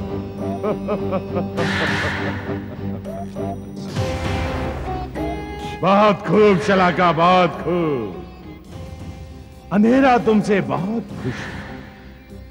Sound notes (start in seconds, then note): 0.4 evil Laugh